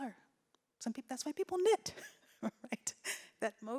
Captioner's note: laughs